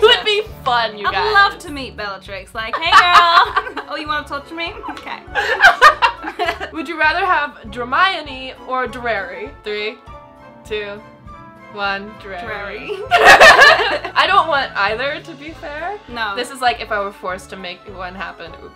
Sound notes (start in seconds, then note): 5.3 laughing; 12.9 laughing